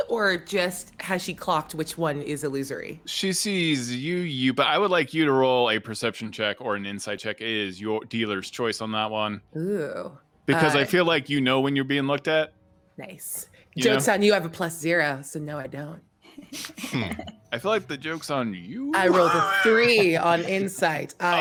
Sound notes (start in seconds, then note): 16.4 chuckles